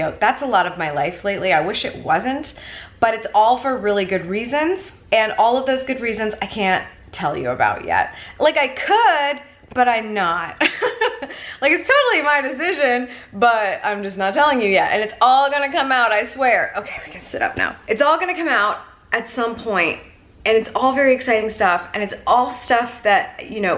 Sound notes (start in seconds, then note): 10.8 laughing